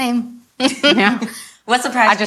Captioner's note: all laugh